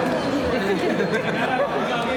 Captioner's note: laughing